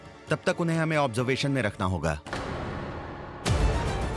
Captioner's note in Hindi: none